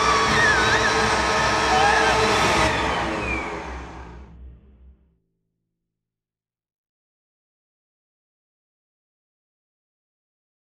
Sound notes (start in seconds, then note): 2.6 vacuuming stops